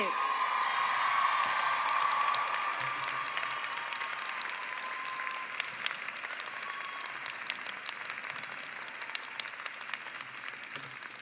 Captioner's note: cheering and applause